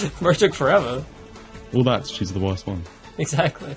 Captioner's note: laughing